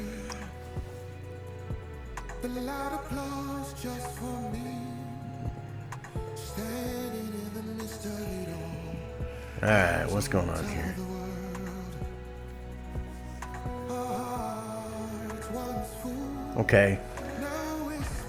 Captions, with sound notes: (laughs) All right, what's going on here? Okay.